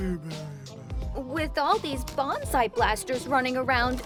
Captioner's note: snoring; fake innocent voice